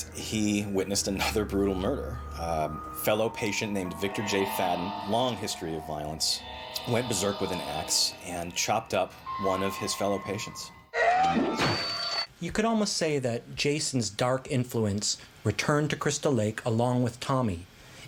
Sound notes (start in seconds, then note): 10.9 screaming